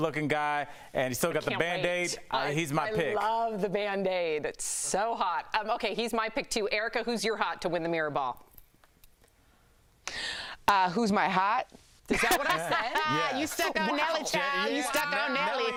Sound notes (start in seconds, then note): 3.4 laughing